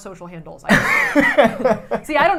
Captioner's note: laughing